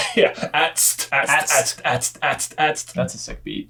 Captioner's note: mimicking club music